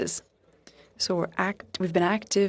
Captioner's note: speaking French